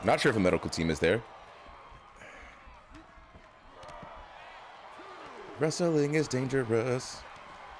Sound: applause

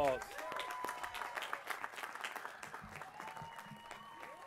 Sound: applause

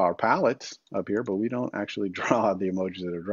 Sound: chuckles

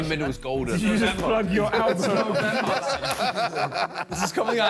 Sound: all laughing

